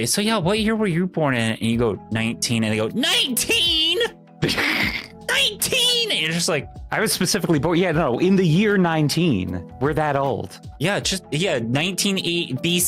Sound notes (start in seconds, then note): 4.4 laughs